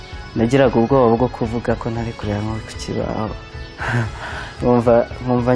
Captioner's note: speaking in Kinyarwanda